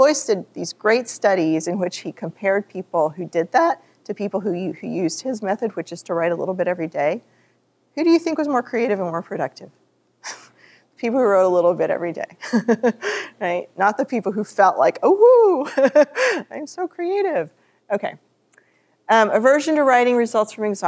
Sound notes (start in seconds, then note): 15.6 laughs